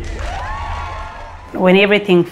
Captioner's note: cheering